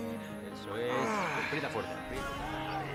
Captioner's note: manusia berbicara bahasa spanyol